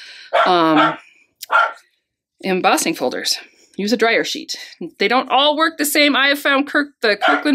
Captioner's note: dog barking; dog barking